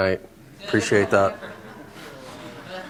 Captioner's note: laughter